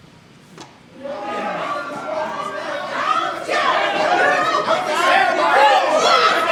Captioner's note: angry voices complain offstage